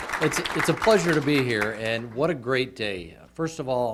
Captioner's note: applause